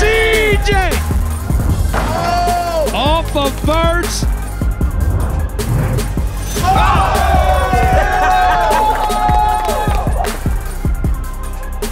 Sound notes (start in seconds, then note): 6.2 crowd cheering